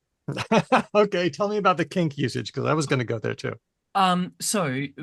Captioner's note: laughs